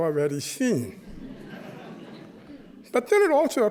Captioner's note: chuckling